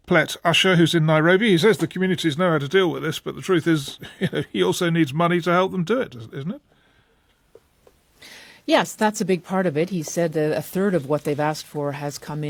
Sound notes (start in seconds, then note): 3.9 laughs